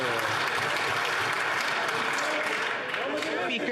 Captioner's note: some Applause